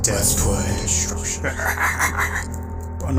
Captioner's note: laughing Meancingly